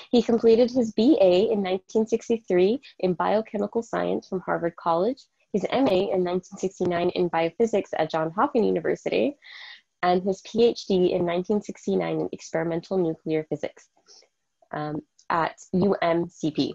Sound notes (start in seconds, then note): none